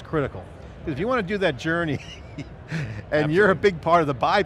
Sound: laughs

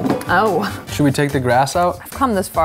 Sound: laughs

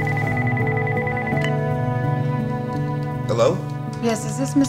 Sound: answering button beeping

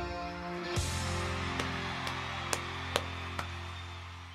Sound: cheering

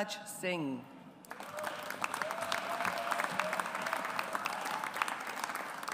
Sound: audience applauds

